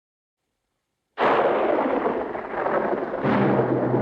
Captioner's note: thunderclap crashing; suspenseful music